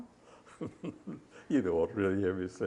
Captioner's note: laughs